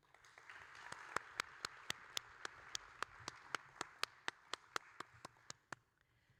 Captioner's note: audience and applauding